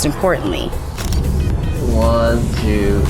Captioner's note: camera clicks